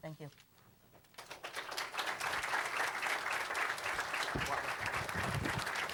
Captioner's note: applause